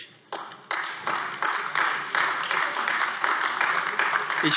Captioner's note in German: Beifall AfD